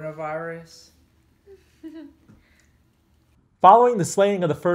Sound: girl giggles

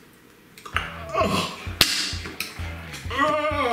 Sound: gagging

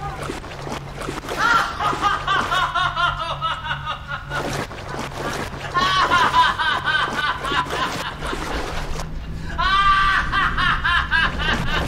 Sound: continuous, incessant, uncontrolled laughter

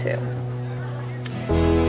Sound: kiss

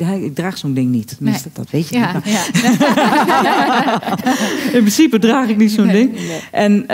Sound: laughter

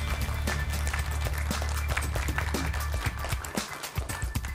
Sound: applause

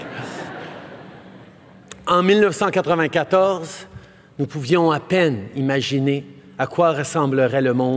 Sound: laughter

